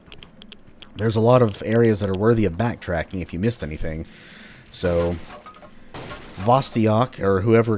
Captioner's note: smash